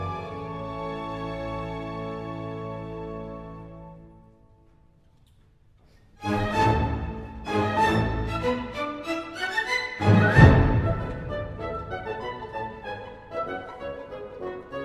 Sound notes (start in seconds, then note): none